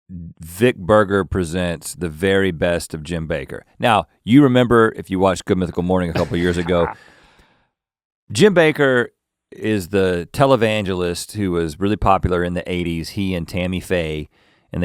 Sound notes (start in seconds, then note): 6.1 Link laughing